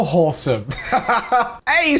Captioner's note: laughs wholesomely